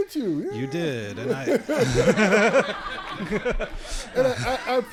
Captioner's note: audience laughing